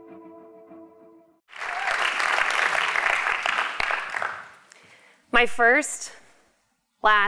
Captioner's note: applause